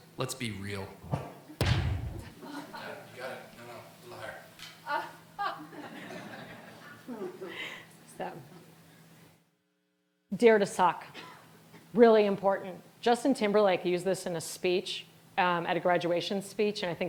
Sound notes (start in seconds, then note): 1.6 upbeat music; 5.4 all laughing